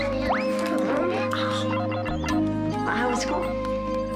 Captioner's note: laughs; electronic beeping